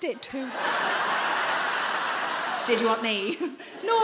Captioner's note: audience laughing